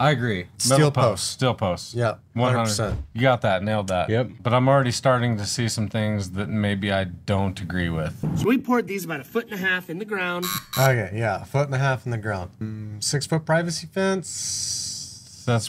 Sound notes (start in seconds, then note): 10.4 buzzer blares